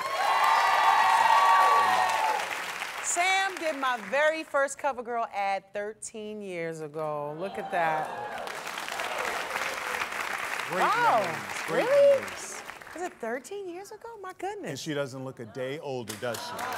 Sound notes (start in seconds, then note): 0.0 applause; 8.0 applause